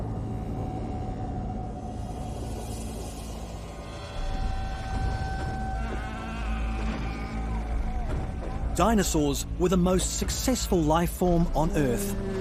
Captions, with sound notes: (suspenseful music continues) (dinosaurs bellowing) Dinosaurs were the most successful life form on Earth,